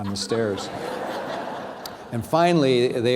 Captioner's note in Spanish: risas